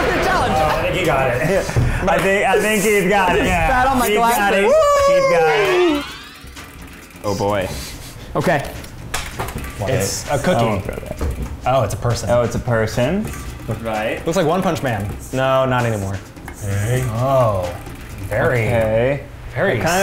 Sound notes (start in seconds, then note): 4.5 cheering